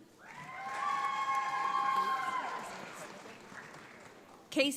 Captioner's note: audience applauds